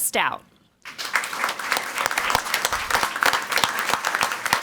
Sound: crowd clapping

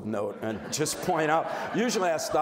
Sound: crowd laughing

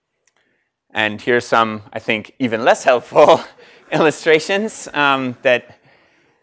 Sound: laugh

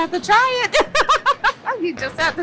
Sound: laughs

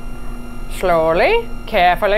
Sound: machine whirring continues

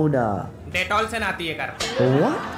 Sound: non-english speech; laughter

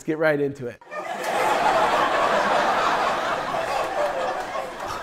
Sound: people laughing

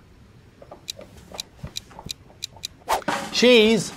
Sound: ticking

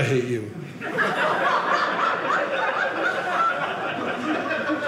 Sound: audience laughing

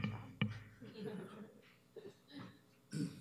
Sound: laughter

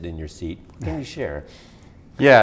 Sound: chuckles

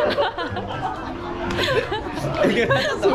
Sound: laughing

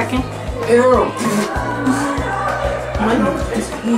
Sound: spits; murmurs

